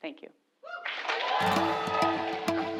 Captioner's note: applause